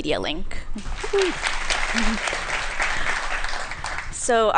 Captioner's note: applause